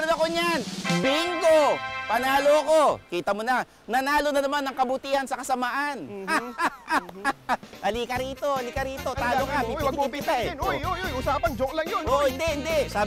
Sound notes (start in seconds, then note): 6.1 last laugh